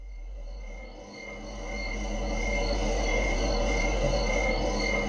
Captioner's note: crickets chirping